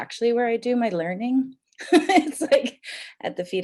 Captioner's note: chuckles